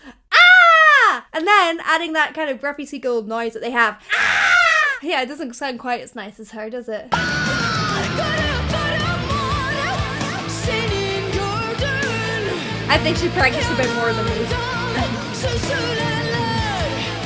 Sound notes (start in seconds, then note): 4.1 gull caws